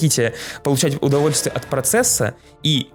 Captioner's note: the bar goes CLANG